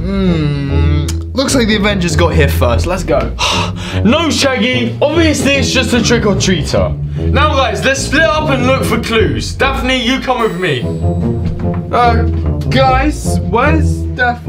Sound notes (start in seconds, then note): 0.0 jaunty orchestral music; 3.4 sighs